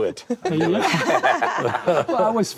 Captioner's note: all laugh